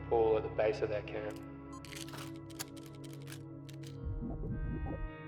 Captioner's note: camera shutter clicks